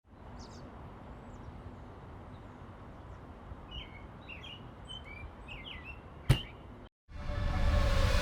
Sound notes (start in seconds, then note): 3.6 birds tweeting